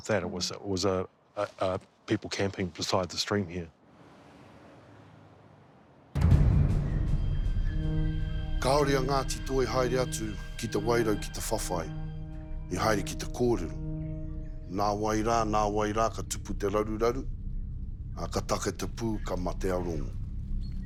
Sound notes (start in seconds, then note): 6.1 tense music; 8.5 speaks te reo